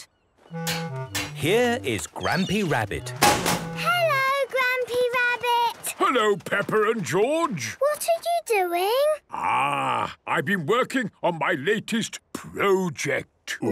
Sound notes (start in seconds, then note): 3.1 chrashing